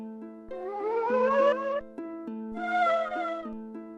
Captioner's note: World 4-4 Ghost shrieking